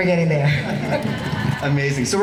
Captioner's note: laughing